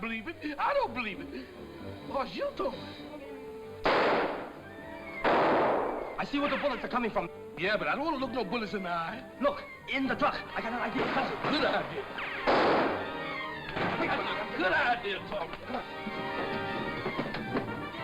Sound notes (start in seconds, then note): 3.6 gun fires